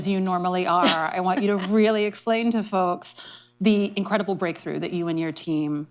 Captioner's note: laughter